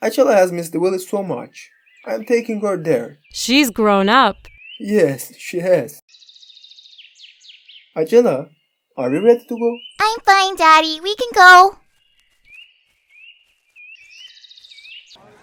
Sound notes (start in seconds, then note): 6.0 birds chirping; 12.2 birds chirping; 12.2 footsteps pattering